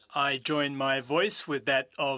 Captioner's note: speaking French